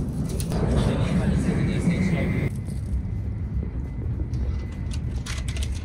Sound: announcer speaking in Japanese

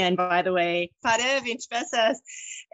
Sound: attendee speaking in foreign language

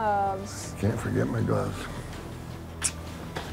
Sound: smooch

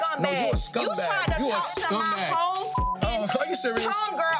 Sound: beep

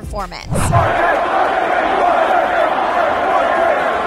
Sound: chanting

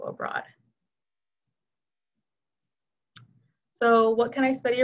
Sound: silence

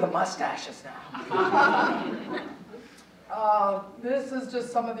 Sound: audience chuckling

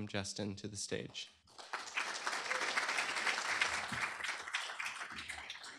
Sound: applause

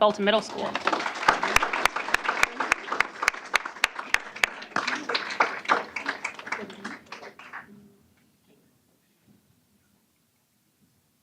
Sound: applause

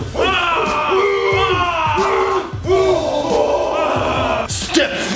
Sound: all yelling

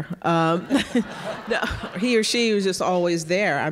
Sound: audience laughing

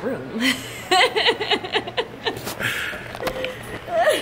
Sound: laughing

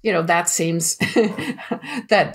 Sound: chuckle

